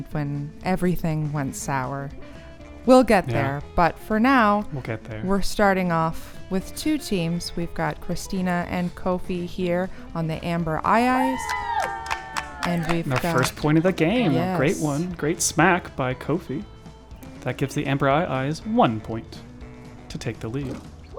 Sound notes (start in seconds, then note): 4.9 quietly